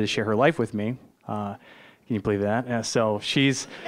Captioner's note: audience laughing